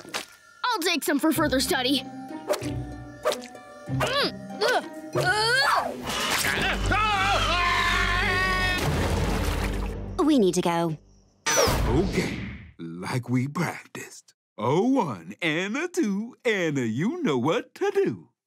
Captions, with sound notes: I'll take some for further study. [grunting] Huh? [screaming] [thudding] We need to go. Okay, like we practiced. A one, and a two, and a you know what to do.